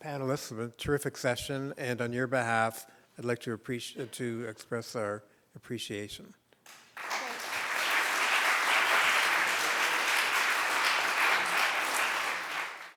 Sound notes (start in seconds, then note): 6.6 applause